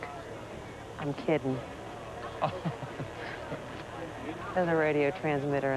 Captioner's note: chuckles